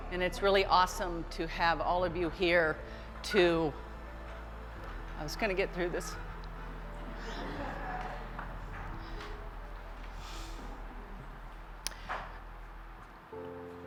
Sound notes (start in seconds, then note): 3.2 crying